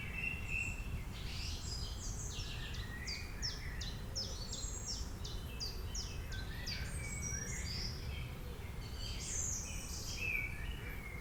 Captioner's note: birds chirping